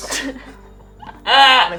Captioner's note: laughing